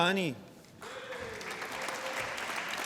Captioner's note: applause